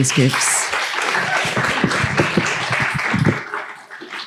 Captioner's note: applause